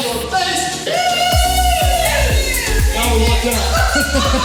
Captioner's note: women cheering; laughs